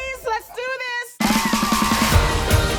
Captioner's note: cheering